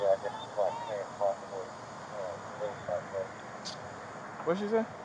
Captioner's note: radio chatter